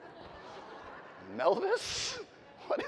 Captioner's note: audience laughing